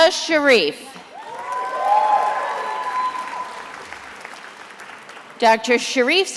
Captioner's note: attendees applauding